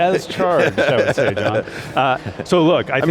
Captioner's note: both laughs